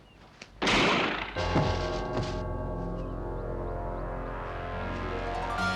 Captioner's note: gun firing; dramatic music